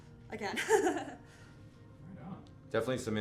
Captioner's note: laughs